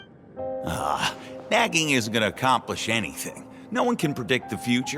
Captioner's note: sigh